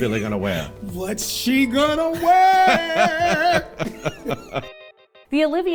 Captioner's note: singsong; hip-hop music